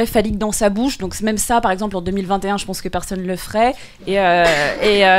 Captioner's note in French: rires